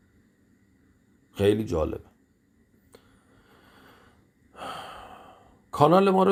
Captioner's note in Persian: صدای آه